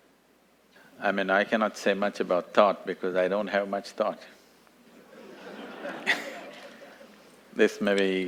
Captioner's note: laughter